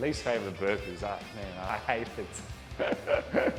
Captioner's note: laughs